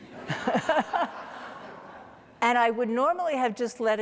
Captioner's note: audience laughing